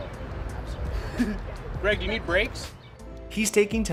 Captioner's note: giggles